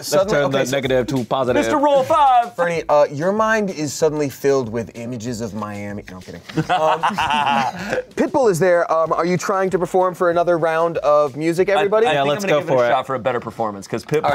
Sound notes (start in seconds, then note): 6.5 everyone laughs